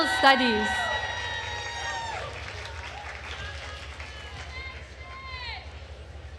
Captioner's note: attendees cheering and applauding